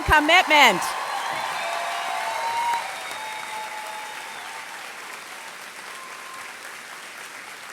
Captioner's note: applause